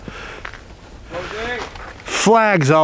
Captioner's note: calling out